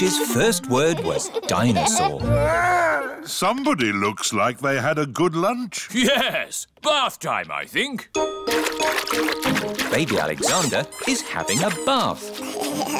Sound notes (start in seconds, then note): 8.4 splashing; 12.2 giggling